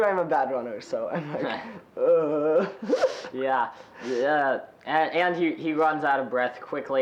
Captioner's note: moving arms awkwardly, groaning